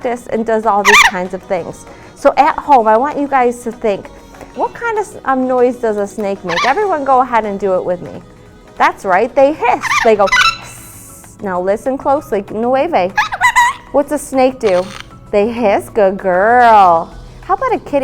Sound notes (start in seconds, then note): 10.3 hisses; 14.6 hisses